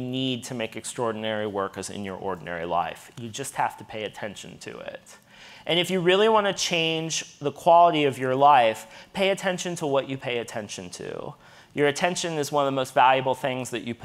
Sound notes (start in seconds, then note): none